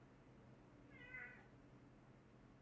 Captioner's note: cat meows in background